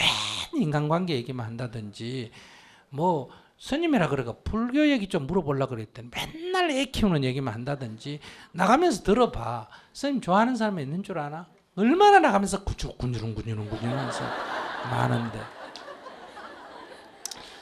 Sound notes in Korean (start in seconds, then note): 13.6 청중 웃음